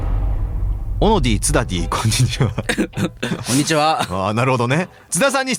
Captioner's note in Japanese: 笑い